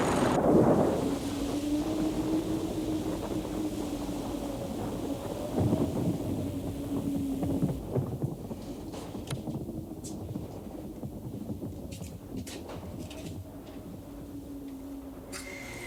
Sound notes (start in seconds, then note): 0.6 thunder rumbling